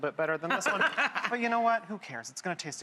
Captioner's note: laughs